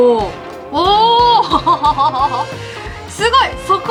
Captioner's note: laughs